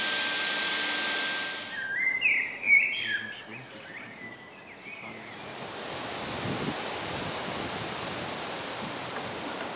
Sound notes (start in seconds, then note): 1.6 peaceful chirping of birds; 5.0 rustling of leaves